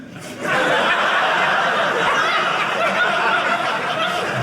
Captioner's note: audience laughing